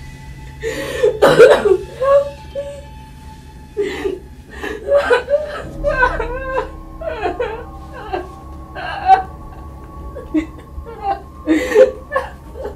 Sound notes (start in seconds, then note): 1.3 ominous music; 6.5 Lisa crying